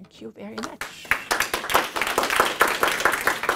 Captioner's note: applause